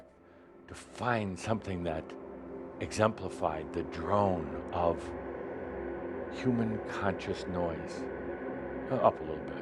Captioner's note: drone begins again